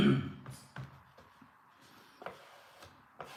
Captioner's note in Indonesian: berdehem